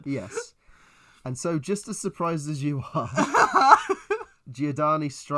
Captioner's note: laughs